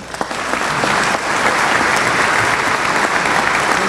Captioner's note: applause